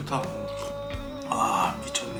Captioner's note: slurp